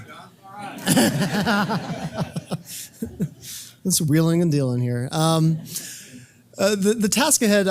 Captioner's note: laugh